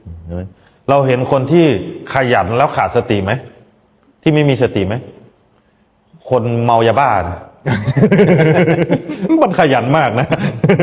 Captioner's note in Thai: เสียงหัวเราะ